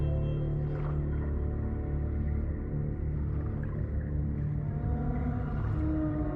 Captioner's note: somber music; water rumbling